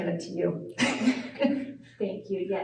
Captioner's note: laughter